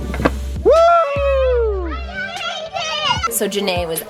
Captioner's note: cheering